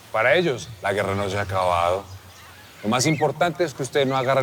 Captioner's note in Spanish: Suena el teléfono